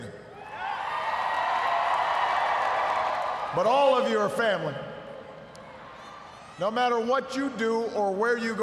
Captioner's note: cheers, applause